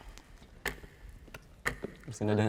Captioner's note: clock ticks